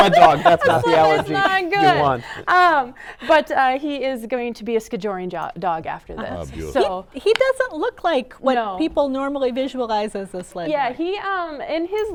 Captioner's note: laughter